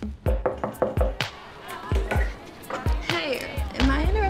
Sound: door knocking

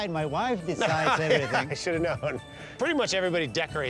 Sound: laughs

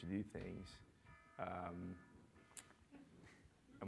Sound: alarm sound

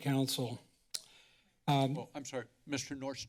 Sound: clicks tongue

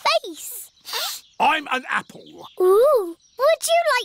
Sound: sniffs

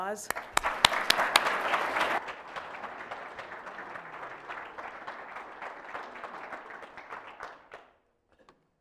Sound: applause

